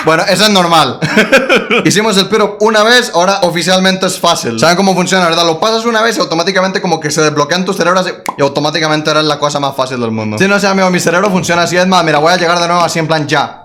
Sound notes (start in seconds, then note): 8.2 pop